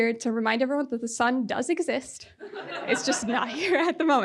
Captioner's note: audience laughing